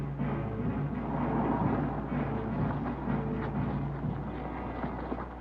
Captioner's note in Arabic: محرك السيارة يدور